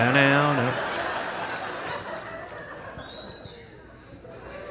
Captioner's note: audience laughing